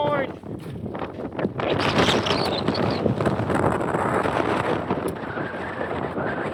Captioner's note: wind Blowing